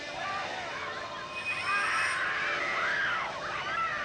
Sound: screaming

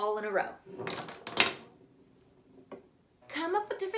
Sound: objects clattering

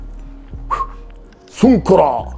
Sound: whistle

